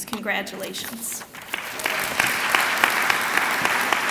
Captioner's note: clapping